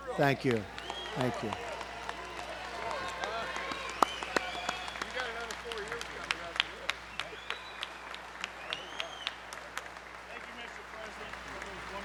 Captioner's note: applause